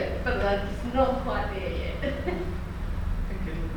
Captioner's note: chuckles